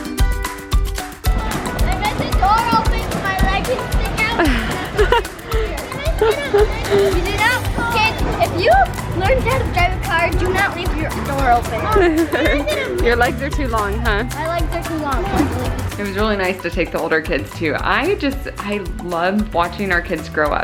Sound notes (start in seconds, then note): 11.8 laughter